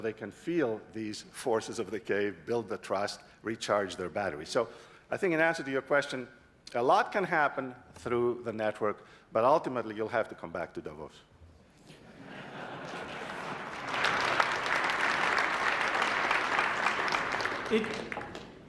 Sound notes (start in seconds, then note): 11.9 laughter; 12.2 applause